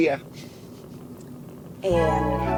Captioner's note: laughing